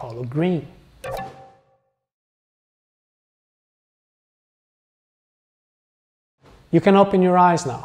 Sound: pause

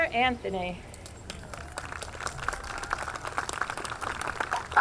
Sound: audience clapping

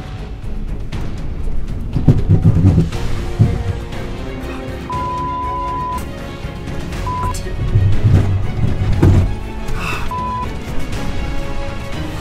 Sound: crunching

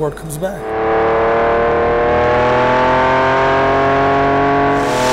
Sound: engine revs

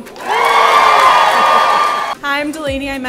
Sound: attendees cheering

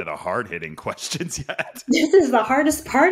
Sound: laughs

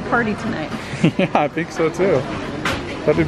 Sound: laughs

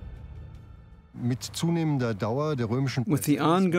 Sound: speaking German

